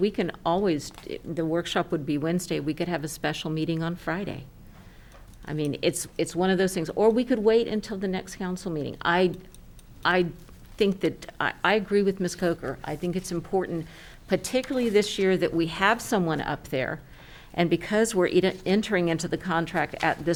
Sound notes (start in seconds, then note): none